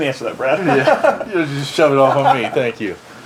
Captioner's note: laughs loudly